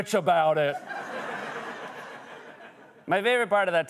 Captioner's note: laughter